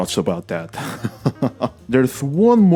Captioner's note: laughter